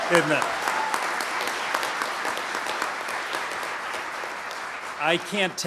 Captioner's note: applause